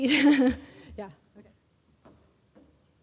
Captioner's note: laugh